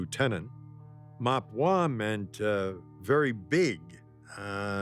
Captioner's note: speaking foreign language